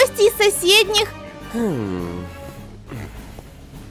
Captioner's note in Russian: тактичный вздох